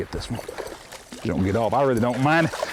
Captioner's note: splash